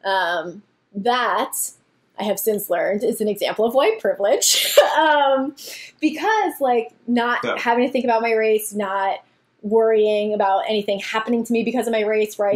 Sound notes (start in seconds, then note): 5.2 laughs; 7.4 grunts again